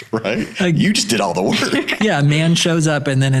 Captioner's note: all laughing